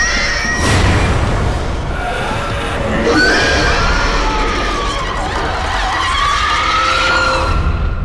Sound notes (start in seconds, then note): 3.0 demon screeching; 3.1 Izzie screaming